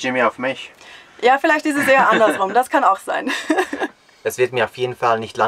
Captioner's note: laughter